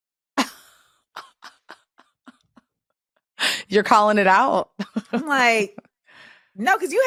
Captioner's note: laughs